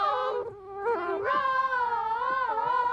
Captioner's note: whines